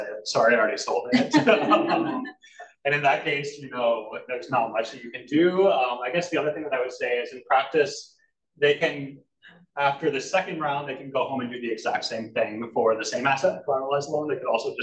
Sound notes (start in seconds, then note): 1.1 all laugh